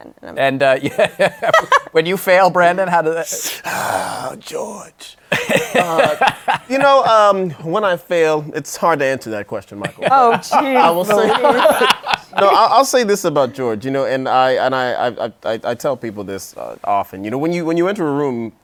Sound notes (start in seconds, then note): 0.8 laughs; 3.3 sighs dramatically; 5.3 laughs; 9.8 laughter